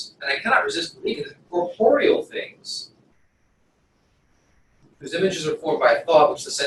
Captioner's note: pause